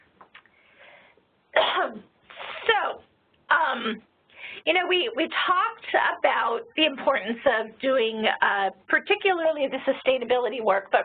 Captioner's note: cough